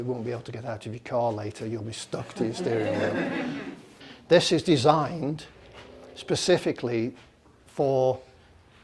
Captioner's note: laughter